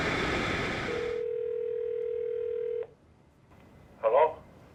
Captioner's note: ringing telephone